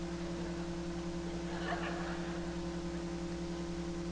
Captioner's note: laughs